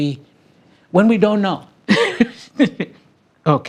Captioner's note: person laughing